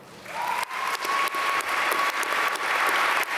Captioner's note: applause